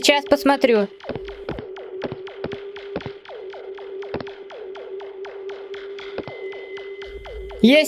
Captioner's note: steps